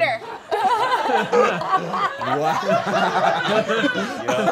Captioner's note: all laughing